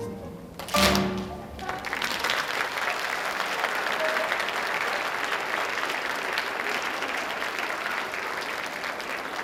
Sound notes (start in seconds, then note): 0.6 clapping; 2.2 audience applauding